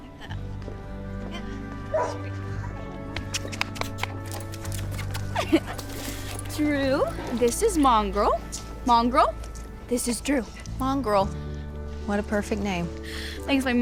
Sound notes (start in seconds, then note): 1.9 dog barks